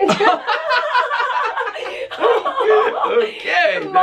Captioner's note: laughter